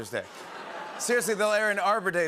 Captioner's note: awws and laughter